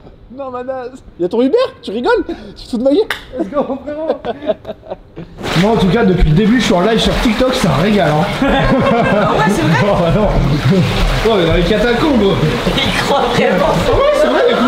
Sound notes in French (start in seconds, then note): 3.4 rire